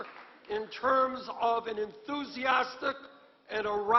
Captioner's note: applause